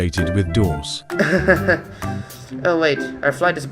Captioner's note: laughs